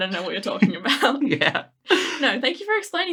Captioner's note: laughing